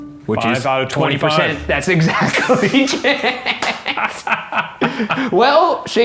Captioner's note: both laughing